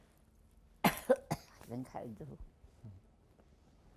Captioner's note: coughing; pauses 12 seconds